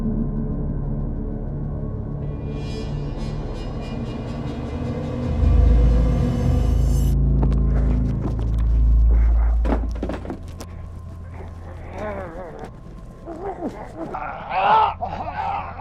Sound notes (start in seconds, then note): 9.6 Andrew thuds; 9.7 rifle thuds; 13.3 Andrew grunting